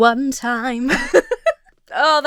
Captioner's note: Emma laughs